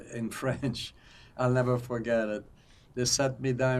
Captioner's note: laughing